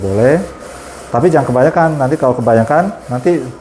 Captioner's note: printer machine noise